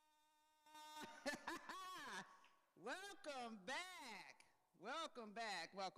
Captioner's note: laughs